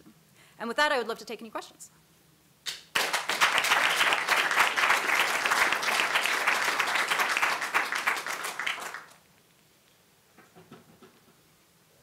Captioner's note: audience applause